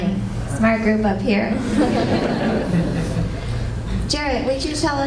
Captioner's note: laughter